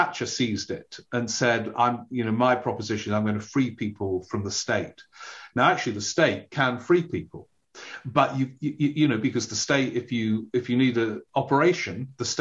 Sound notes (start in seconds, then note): none